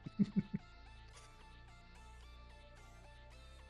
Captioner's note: laughs